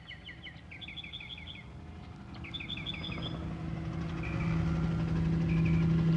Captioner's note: helicopter engine running